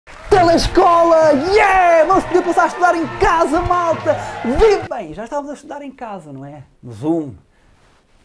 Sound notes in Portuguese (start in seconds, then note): 0.0 aplausos; 0.1 música animada